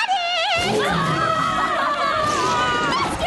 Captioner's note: frightened shouts